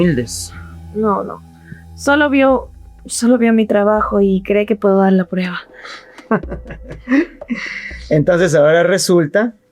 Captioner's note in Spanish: risas